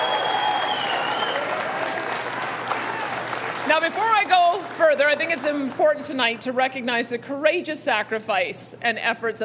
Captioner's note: cheering